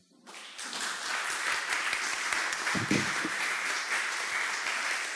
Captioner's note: audience applause